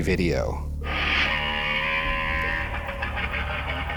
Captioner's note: T-Rex growling